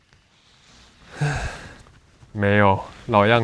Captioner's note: sigh